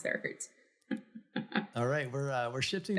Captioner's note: laughs